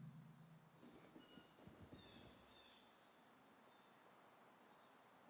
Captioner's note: birds singing outside